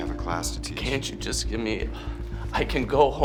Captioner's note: sighs